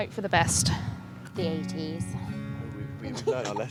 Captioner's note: laughs